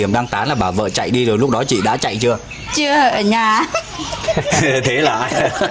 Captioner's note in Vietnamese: tiếng cười